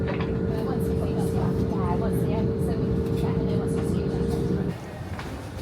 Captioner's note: passengers chattering